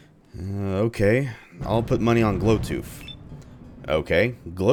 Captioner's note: thunder